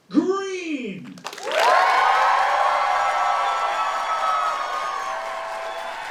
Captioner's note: audience cheering and applauding